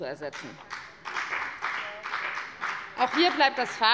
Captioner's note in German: Beifall bei der FDP